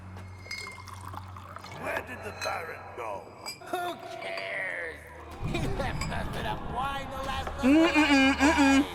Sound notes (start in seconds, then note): 0.4 glass clanging; 0.4 liquid pouring; 1.8 gruff voice; 3.5 carefree voice; 7.2 banging on door; 7.5 carefree voice